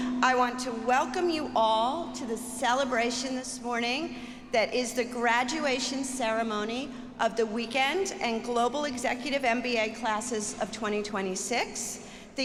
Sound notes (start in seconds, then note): none